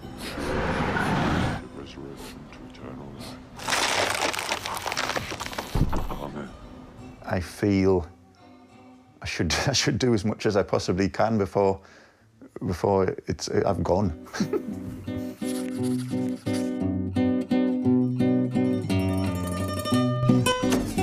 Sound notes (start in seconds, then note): 0.0 bus tires on the road- screeching to a stop; 3.6 crunching of the ground as screw pushes into the earth; 5.9 priest mumbling a prayer